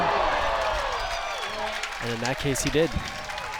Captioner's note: crowd cheers